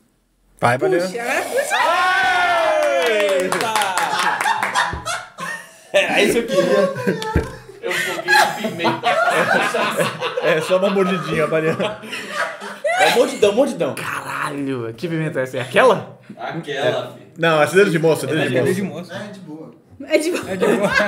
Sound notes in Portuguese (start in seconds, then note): 5.0 risos